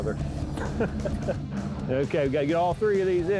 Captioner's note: speaker laughs